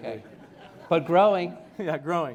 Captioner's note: laughter